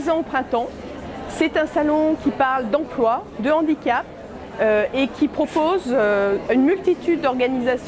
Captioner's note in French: bruit de foule